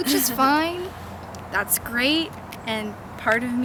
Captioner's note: laughs